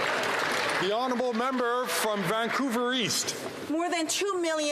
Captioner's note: some Applause